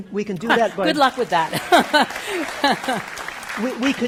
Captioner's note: chuckles